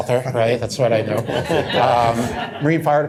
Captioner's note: laughter